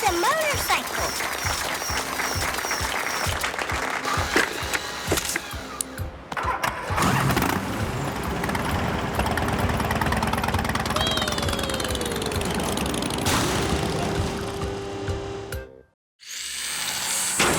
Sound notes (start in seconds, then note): 1.0 clapping; 6.8 engine revving